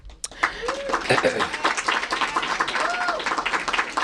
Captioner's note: applause